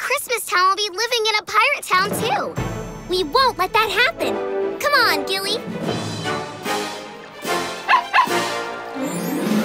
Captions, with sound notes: will be living in a pirate town too. We won't let that happen. Come on, Gilly! [barking]